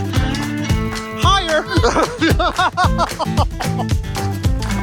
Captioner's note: screams